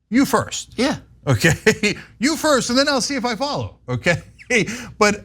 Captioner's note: laugh